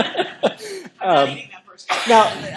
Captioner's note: laughter